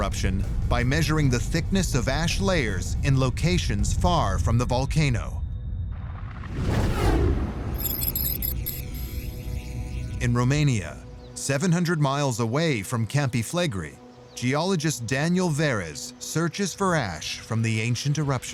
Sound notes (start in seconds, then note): 5.7 electronic whirring; 6.0 whooshing